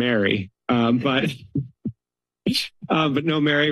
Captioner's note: laughs